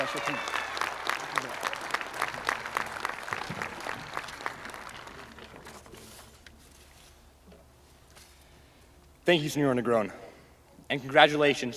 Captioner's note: cheers and applause